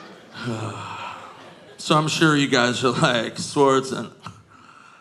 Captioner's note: sighs